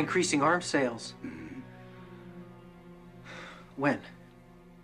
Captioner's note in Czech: Povzdech